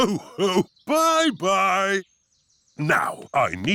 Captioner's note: laughs